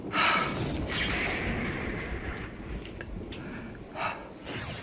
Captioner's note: Madame exhales